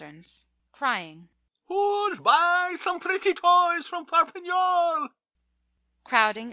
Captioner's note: _crying_